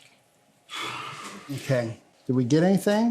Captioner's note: sighs